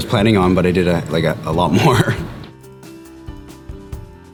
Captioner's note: chuckles